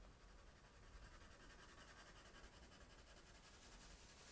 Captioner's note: pencil scratching